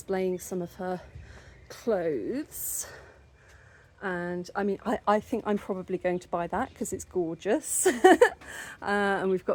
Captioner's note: laughing